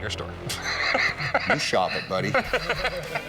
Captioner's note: laughs; Rick laughs